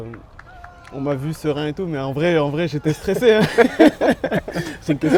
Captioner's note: laughs